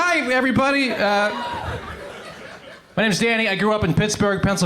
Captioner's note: crowd cheers